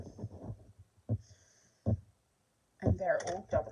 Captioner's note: breathing and nasally sound